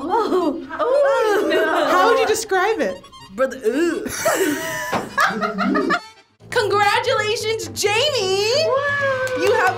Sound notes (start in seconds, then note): 3.8 laughs; 8.7 crowd cheers